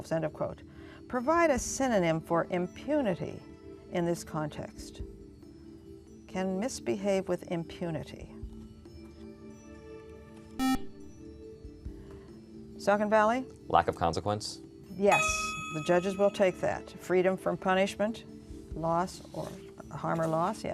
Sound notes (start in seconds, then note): 10.6 buzzer